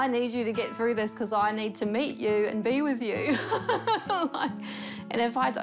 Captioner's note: laughs